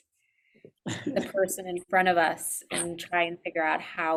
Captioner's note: chuckles